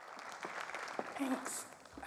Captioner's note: crowd applauds